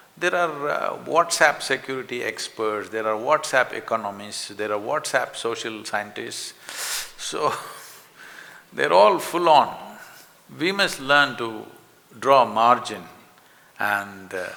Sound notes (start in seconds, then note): 7.7 laughs